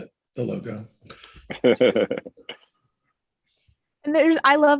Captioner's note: laughs